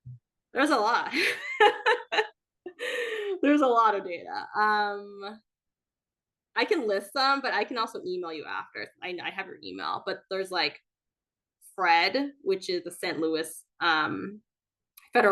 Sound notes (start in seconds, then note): 1.6 laughing